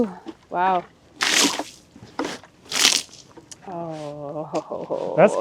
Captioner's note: liquid splashing